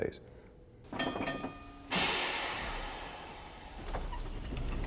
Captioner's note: bell ringing